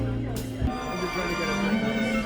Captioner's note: chatter and music